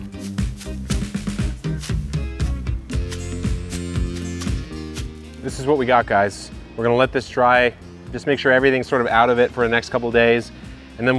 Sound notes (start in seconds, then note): 0.0 upbeat electronic music continues; 2.6 wheatgrass crunching